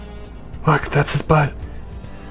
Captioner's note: whispering